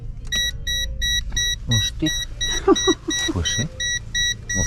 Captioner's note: pip, pip, pip, pip